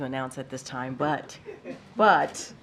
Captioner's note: laughter